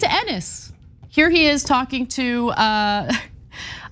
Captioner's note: laugh